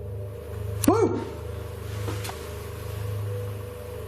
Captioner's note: shouting